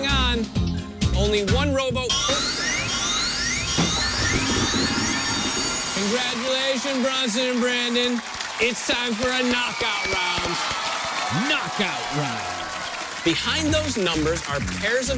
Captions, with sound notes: HANG ON. ONLY ONE ROWBOAT-- [alarm sounding] CONGRATULATION, BRONSON AND BRANDON. IT'S TIME FOR A KNOCKOUT ROUND. BEHIND THOSE NUMBERS ARE PAIRS OF IMAGES